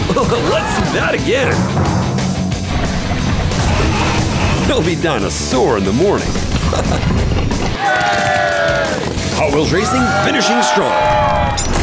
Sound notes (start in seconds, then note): 2.4 crashing sound; 7.7 cheering